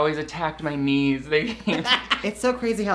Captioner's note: both laugh